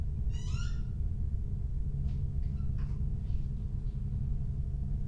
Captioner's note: door creaking